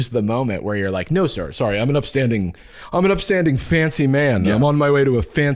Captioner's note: deep voice